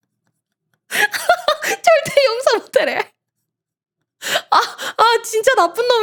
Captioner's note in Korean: 웃음